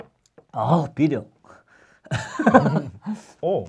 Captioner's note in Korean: 웃음